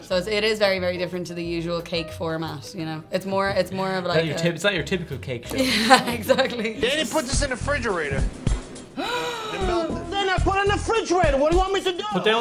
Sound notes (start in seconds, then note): 5.5 laughing; 9.0 gasp